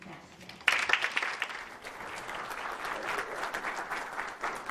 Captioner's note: audience applauds